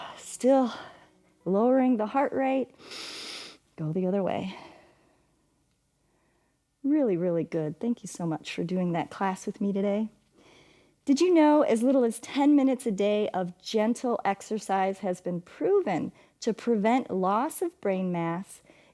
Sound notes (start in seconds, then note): 2.8 inhales